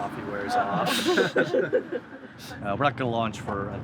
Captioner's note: laughing